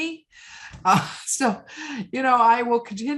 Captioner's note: laughing